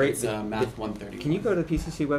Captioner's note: background talking